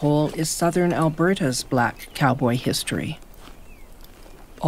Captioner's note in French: gazouillis d'oiseaux